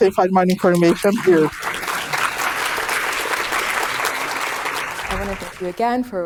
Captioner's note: audience applauding